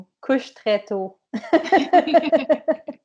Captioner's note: laughter